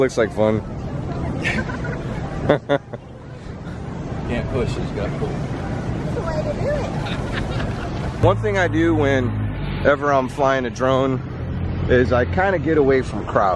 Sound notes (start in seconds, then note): 1.4 laughing